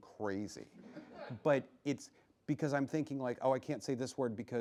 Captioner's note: laughing